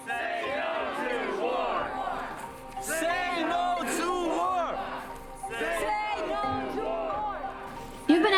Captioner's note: protest chanting